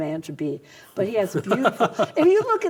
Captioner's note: laughs